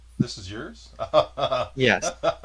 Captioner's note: laughs